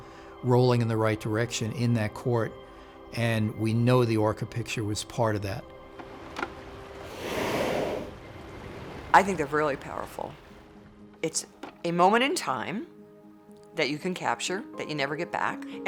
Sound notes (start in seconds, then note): 6.0 whale breaching sound